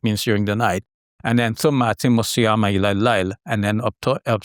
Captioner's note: speaking in Arabic